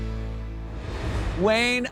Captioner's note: air whooshes